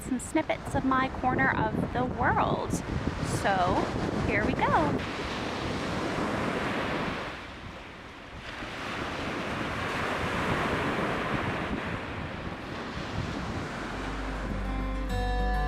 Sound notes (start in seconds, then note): 5.3 sound of waves crashing on the shore; 14.0 instrumental music